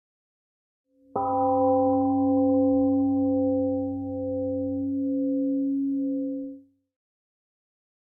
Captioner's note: temple gong sounds and fades slowly